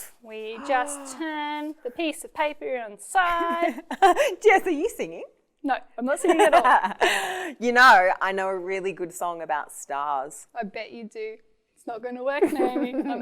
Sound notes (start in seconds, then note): 7.2 laughing